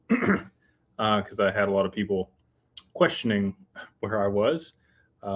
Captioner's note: clears throat